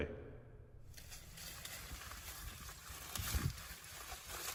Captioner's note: corn rustling